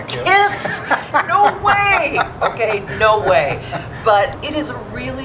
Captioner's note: laughing